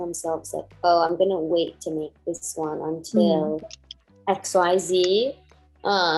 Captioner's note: murmurs